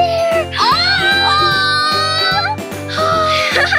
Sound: gasps; giggles

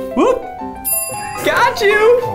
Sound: bell rings

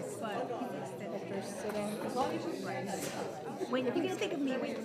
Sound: trustees chatting

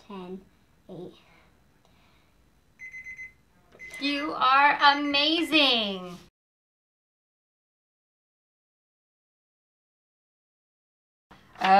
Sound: alarm Sounds

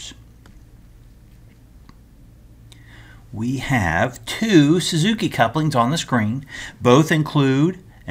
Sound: turn page

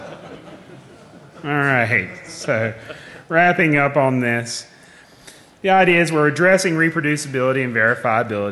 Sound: laughing

